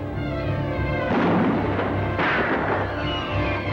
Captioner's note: gun fires